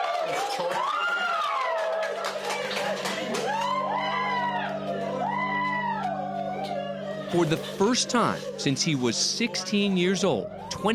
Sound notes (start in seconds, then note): 3.6 whooping continues